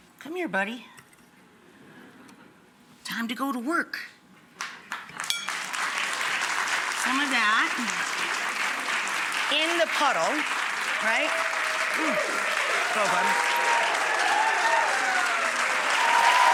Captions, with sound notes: Come here, buddy. Time to go to work. (audience clapping) Some of that in the puddle, right? Mm, so good. (audience cheering)